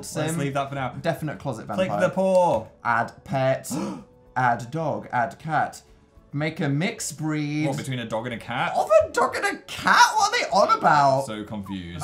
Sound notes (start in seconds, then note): 3.8 gasps